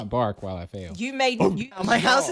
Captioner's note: barks